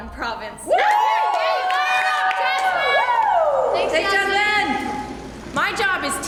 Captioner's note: cheering